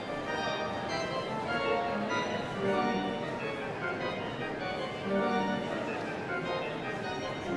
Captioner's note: audience members chattering indistinctly